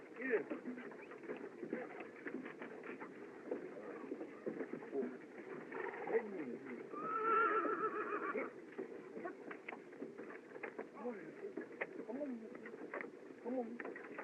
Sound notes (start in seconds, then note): 6.9 horse Whinnies